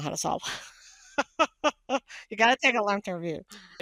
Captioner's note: laughing